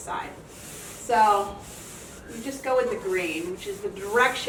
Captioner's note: sock rubbing